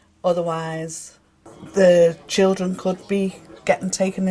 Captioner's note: distorted voices and sounds